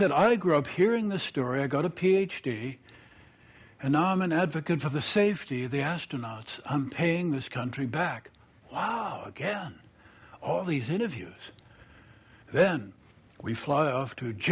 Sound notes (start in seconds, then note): none